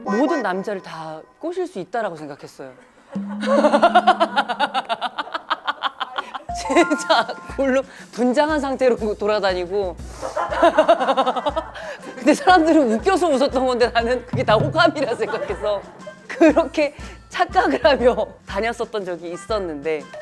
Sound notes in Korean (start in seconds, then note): 3.2 오열